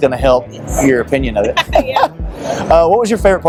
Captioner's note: laughs